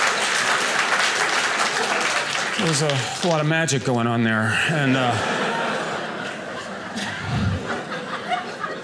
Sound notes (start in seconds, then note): 0.0 audience applauding; 4.7 audience laughing